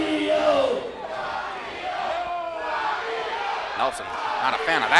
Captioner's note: crowd chanting Fabio